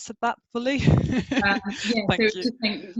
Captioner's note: laughs